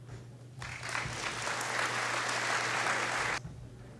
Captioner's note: applause